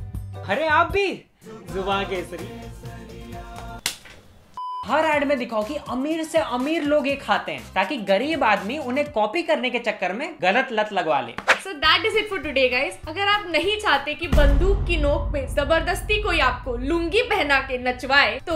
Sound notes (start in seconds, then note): 3.8 smack